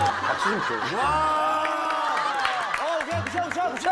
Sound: cheering

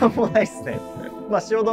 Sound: laughing

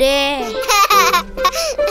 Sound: laugh

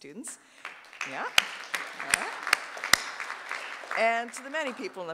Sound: audience applauding

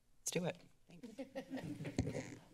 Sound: laughter

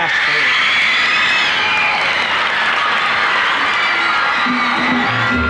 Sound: screaming and clapping

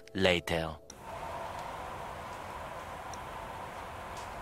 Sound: snowstorm sound

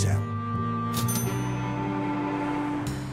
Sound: cash register dings

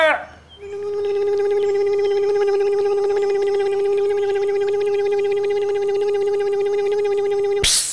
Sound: electric motor hum; hiss

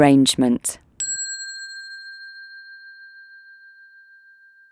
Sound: bell dinging

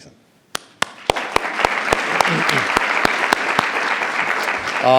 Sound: attendees applauding

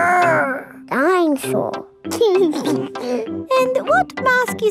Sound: giggles

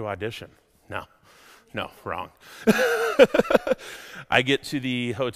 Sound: laughs

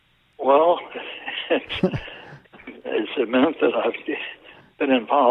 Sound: laughs

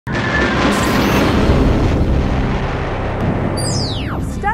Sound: sound Effects

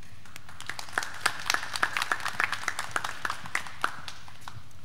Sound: graduands clapping

